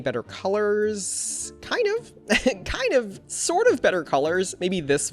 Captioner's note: laughs